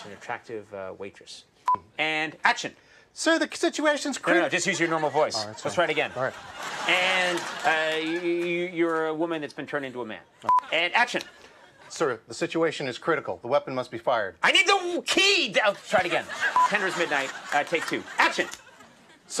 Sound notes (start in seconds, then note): 1.6 beep; 4.4 audience laughs; 10.4 beep; 16.5 beep